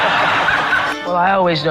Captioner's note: laughter